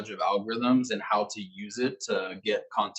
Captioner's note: male Voice